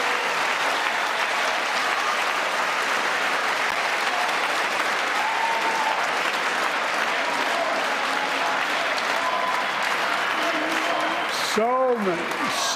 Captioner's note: cheers and applause